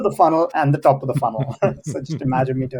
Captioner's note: laughs